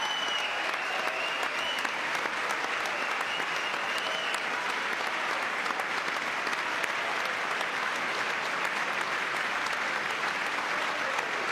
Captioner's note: applause